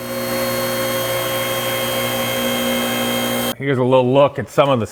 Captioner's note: lift whirring